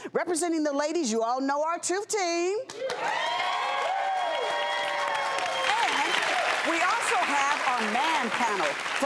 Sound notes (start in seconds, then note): 2.8 audience applause